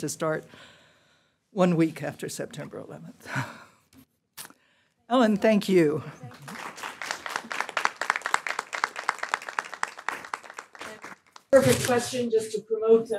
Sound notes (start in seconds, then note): 6.2 applause